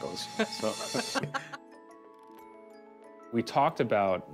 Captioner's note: both laugh